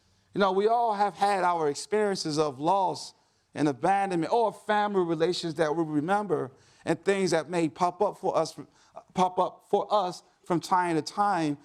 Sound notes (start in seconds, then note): none